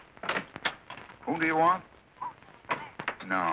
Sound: on phone

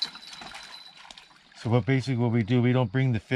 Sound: fish splashing

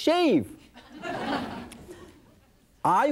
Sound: audience laughing

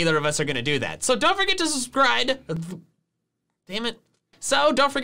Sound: puffs

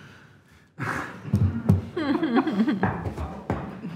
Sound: all laugh

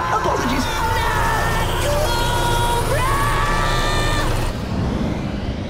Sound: screaming

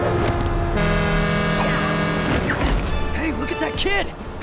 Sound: horn honks

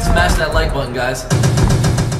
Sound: banging

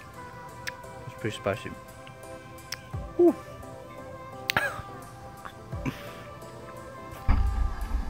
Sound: coughs

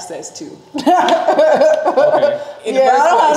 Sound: laughing

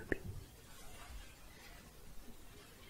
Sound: shuffling

